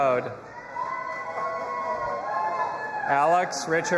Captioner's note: audience applauding and cheering